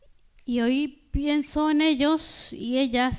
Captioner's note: speaking spanish